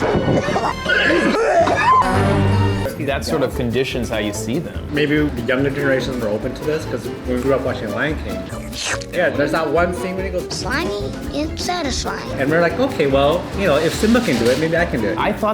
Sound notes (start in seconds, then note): 0.0 contestants choking and gagging; 8.4 Simba slurping